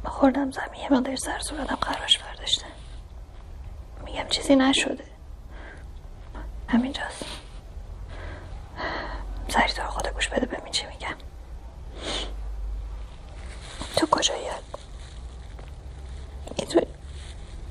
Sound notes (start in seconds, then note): 12.0 sniffles